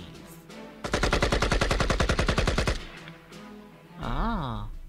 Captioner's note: gun shots can be heard